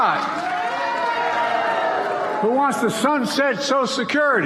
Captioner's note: applause